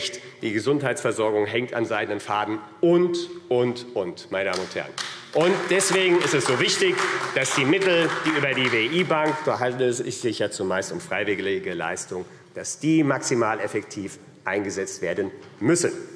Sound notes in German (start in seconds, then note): 4.9 Beifall AfD